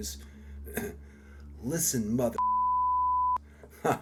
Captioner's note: beeps